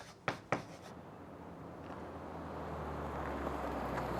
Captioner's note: engine hums